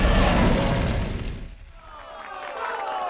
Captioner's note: cheers and applause